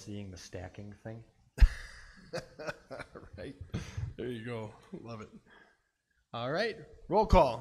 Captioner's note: laughs